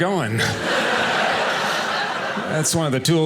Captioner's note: audience laughing